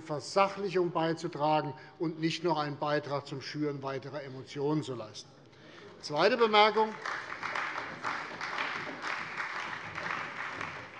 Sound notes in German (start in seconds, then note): 6.2 Beifall bei der CDU